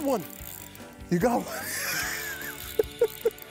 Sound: laughs

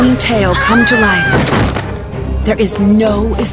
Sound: voice-over; Nancy screams; crash

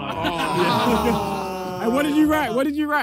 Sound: players groan

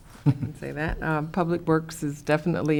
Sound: chuckles

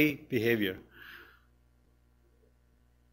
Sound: pause

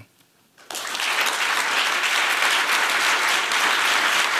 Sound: applause

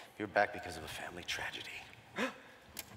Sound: gasp

